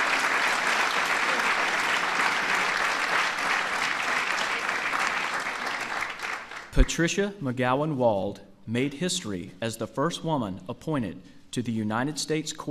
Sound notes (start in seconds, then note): 0.0 applause